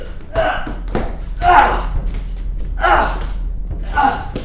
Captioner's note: Chris grunting